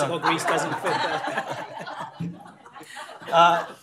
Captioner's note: laughter